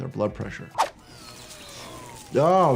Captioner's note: robotic arm whirs and buzzes